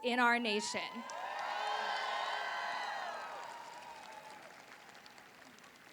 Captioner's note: applause